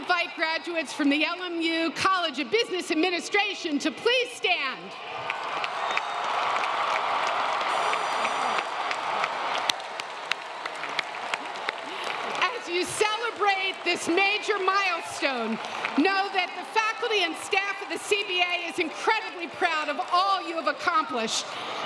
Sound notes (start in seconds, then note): 8.5 applause